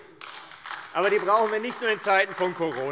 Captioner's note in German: Beifall AfD